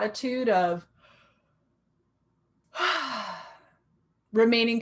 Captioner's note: sighing